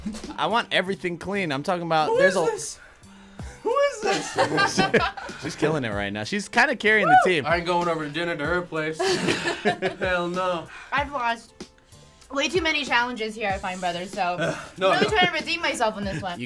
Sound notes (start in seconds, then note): 4.0 laughing